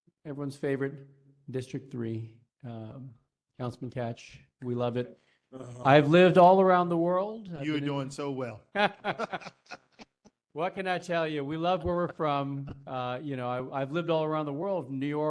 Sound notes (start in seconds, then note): 8.7 laugh